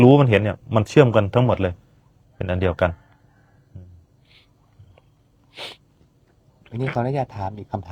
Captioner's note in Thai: เสียงสูดหายใจ